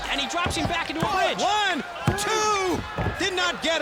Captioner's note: hand pounding